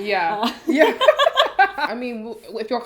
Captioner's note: laughter